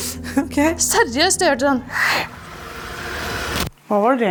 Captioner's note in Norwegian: imiterer snerrelyd